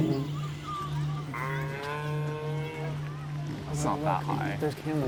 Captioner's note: animal moaning